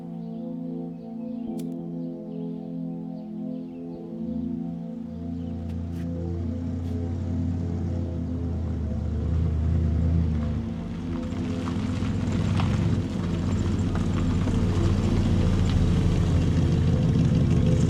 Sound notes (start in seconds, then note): 11.2 car approaching